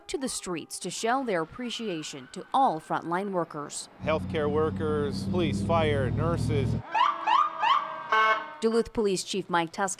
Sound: sirens

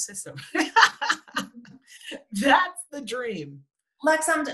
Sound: laughs

